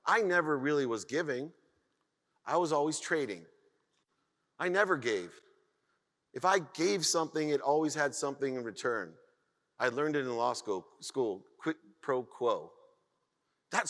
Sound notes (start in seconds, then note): none